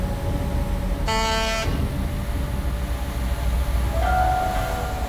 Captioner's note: horn honks